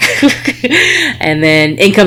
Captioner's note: laughs